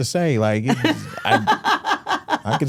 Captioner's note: Stephanie laughs